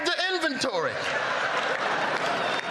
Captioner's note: laughter